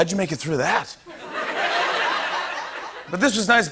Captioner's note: laughter